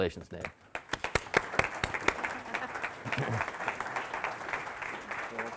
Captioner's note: audience applauding